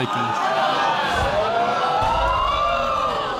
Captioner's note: audience gasping